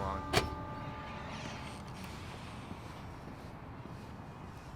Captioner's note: door opening